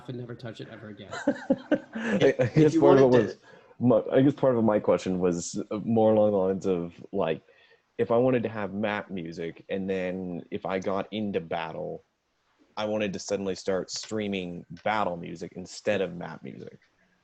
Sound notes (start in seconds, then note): 0.8 trainee laughing